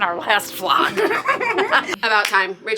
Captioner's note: laughing